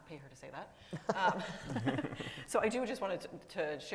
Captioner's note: all laughing